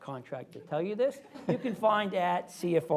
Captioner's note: laughter